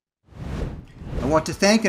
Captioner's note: air whooshing